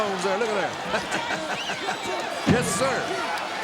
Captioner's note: laughs